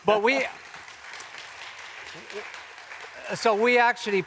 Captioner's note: audience applauds